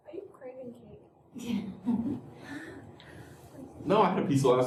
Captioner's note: laughter